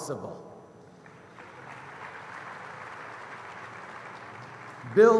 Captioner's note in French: Applaudissements